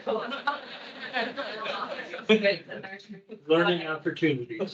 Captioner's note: attendees laughing